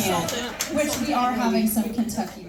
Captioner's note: crowd laughing